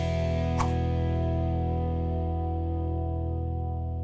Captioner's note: air swooshing